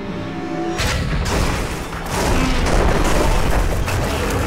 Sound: explosion

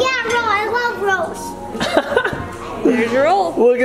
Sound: laughing

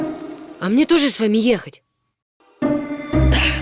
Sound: in normal voice

